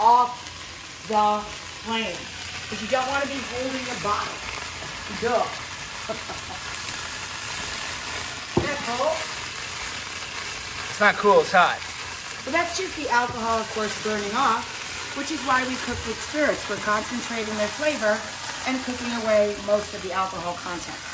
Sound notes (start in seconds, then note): 5.9 Rachel chuckles; 7.5 sizzling